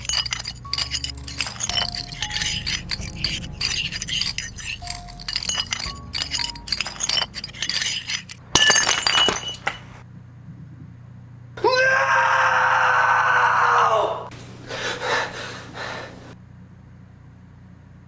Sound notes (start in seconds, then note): 0.3 scraping creak intensifies; 9.1 plate smashes